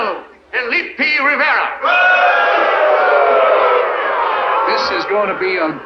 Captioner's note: crowd boos